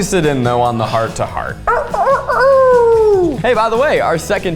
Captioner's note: howls